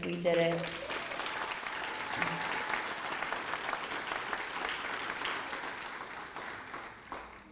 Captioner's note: applause